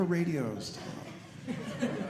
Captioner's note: audience laughing